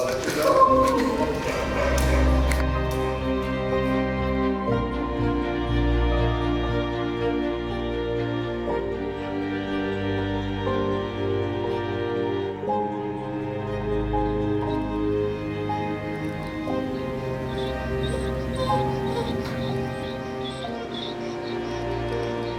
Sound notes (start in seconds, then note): 0.0 crying; 10.4 gentle music; 18.6 dog whining